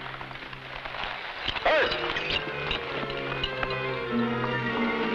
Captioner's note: man shouts; tense music